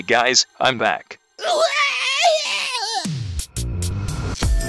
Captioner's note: screams; intro music